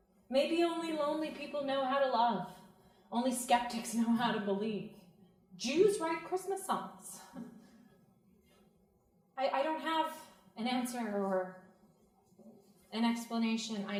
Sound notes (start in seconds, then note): none